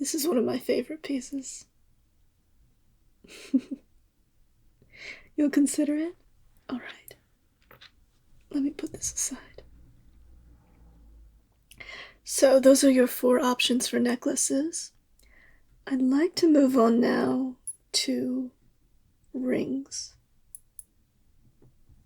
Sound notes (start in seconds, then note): 3.3 laugh